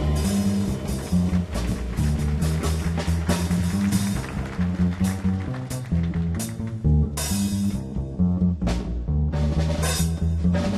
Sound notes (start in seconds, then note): 0.0 audience applauding